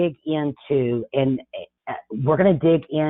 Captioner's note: chuckles